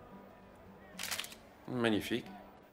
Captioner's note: camera clicks